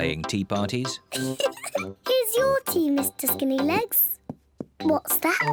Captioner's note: giggles